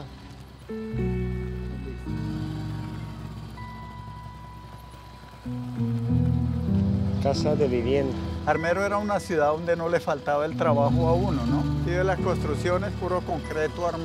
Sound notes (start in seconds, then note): 0.7 soft instrumental music; 7.1 speaking in foreign language